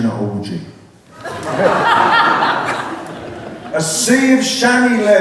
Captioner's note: laughter